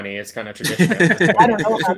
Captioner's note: all laugh